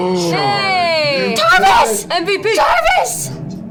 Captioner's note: screaming